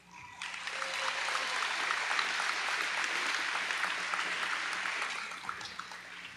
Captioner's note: audience applauding